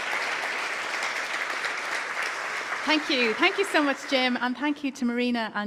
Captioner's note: applause